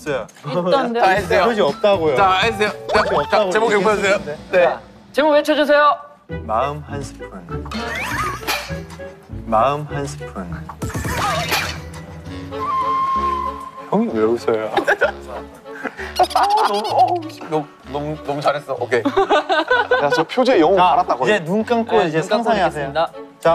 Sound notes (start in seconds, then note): 15.8 laughing